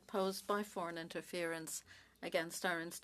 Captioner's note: speaking French